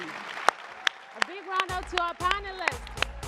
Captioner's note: audience applauds and cheers